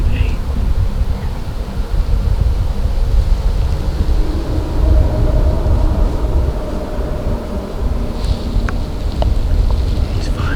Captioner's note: wind and distant road noise